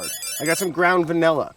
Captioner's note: game buzzer ringing